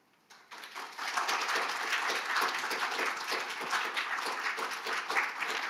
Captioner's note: audience applauding